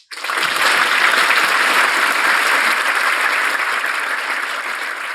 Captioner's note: audience applauding